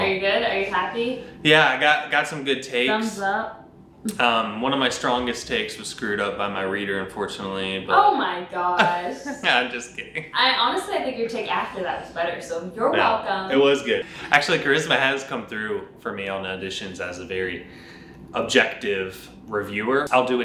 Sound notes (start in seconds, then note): 8.8 laughs